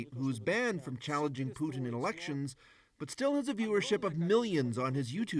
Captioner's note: speaking russian